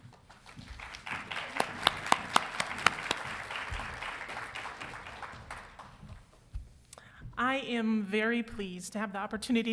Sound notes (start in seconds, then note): 0.2 crowd applauding